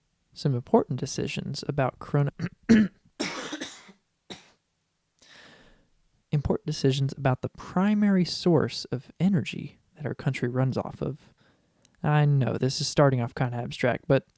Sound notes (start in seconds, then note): 2.6 clears throat; 3.2 distant coughing